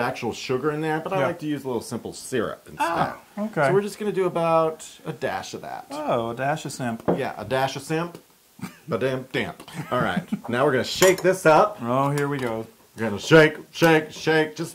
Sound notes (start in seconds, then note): 9.6 laugh